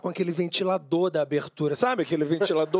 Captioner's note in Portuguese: risos